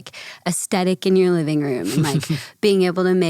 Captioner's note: chuckles